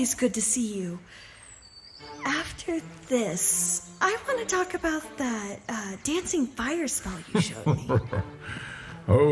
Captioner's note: hushed